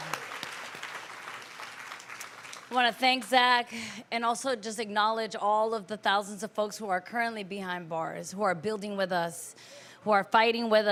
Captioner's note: applause